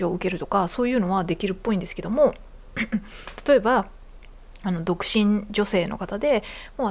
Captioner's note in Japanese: 咳払い